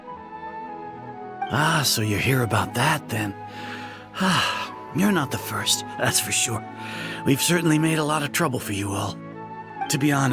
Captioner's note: sigh